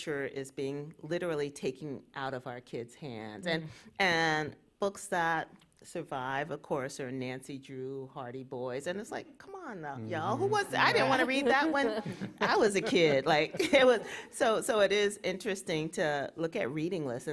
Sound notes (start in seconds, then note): 10.2 laughs